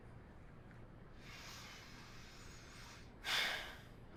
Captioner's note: breathes deeply